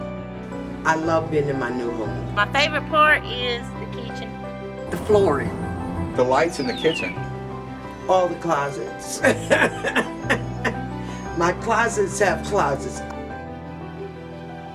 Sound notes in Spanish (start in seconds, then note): 9.2 Risas